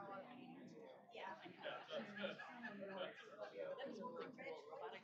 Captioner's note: off-mic chatter